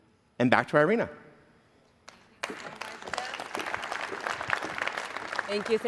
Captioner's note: applause